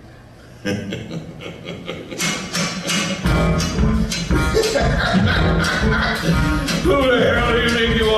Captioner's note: laughs